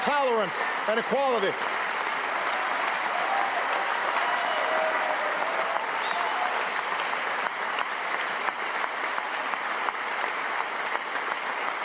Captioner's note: cheers & applause